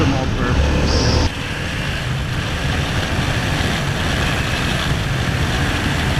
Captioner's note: only wind and engine noise from here on out